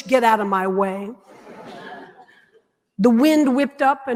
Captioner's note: audience laughing